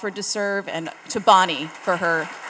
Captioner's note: audience applauding